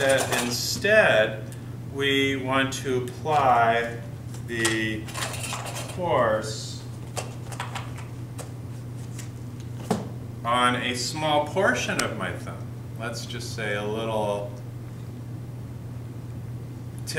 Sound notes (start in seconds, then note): 5.0 metalic clatter; 7.1 briefcase thumps closed